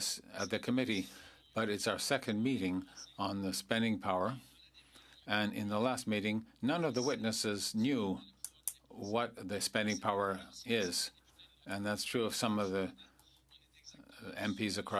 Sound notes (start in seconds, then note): 2.3 speaking French